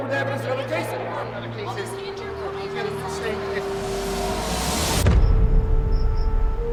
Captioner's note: people chattering indistinctly; gentle music